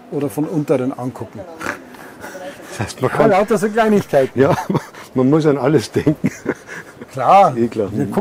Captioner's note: laughter